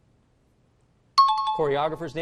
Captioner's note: chiming